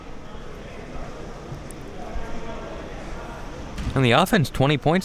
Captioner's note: spectators chattering